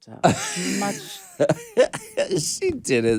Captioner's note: Alaska laughs